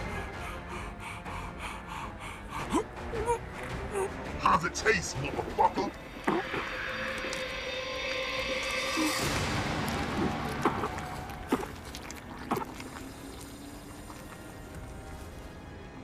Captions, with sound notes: (Silk gasping) (Silk gagging) - How's it taste, motherfucker? (Silk gagging and gasping) (tense music)